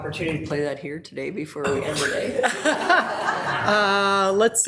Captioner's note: people laughing